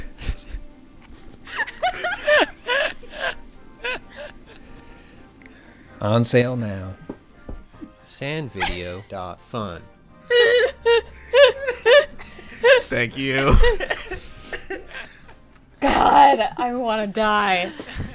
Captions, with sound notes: (laughter) On sale now, sandvideo.fun. (laughter) - Thank you. - God. I wanna die.